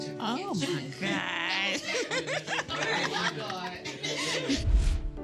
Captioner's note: all laughing